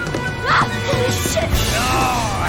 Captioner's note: screams